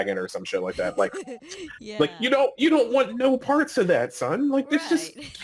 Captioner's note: laughing; laughing